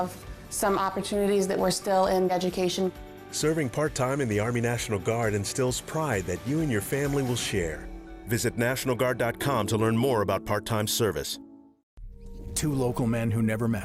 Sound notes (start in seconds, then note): none